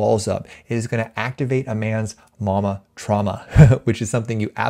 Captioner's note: chuckles